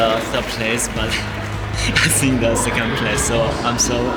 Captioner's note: applause